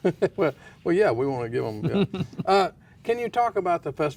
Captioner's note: laughs